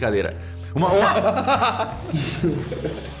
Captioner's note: laughs